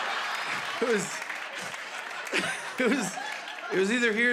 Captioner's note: laughter; laughs